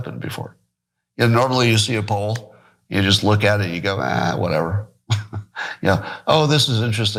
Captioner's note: laugh